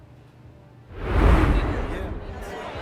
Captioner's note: air whooshing; patrons chattering